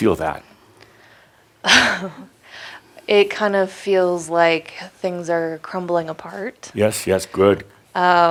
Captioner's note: chuckles